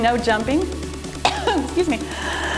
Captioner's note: coughs